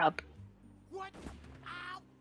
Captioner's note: gunshot